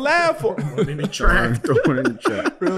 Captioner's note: laughing